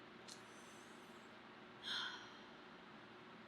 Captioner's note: sucks teeth and exhales loudly